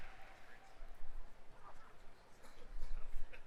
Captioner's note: applause